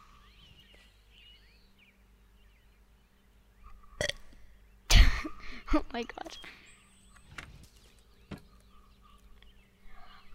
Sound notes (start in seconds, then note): 4.0 burps; 4.9 giggles